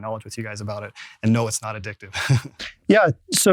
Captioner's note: laughing